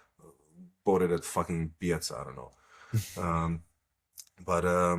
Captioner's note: laughs